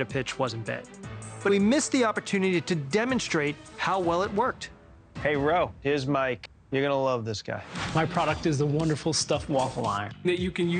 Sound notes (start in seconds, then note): 7.6 air whooshes